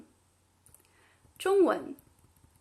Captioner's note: Mandarin